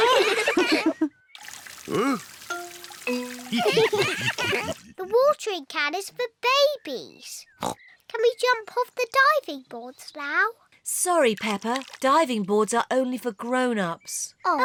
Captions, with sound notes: (ALL LAUGH) Huh? (ALL LAUGH) The watering can is for babies. (OINKS) Can we jump off the diving boards now? Sorry, Peppa, diving boards are only for grown-ups.